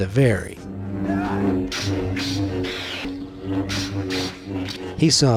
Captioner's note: lightsabers buzzes, whooshes